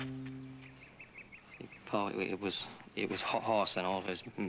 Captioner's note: stuttering